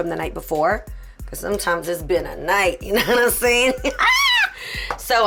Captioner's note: laughing